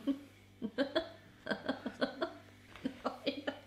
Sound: laughs

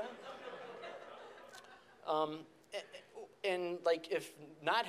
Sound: audience laughs

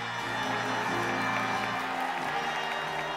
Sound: audience cheering

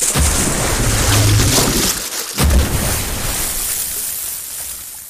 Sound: crashing

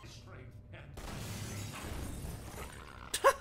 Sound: gravity gun punt sound; zombie death growl; laughing

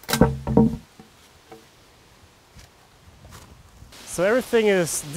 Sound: wood plank clanking

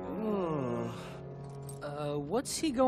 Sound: groaning

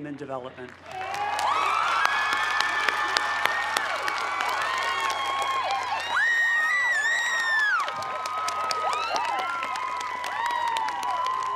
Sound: cheers and applause

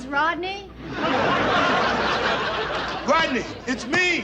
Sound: audience laughs

